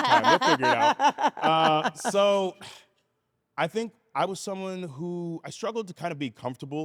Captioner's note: laugh